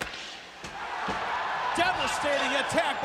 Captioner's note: crowd cheering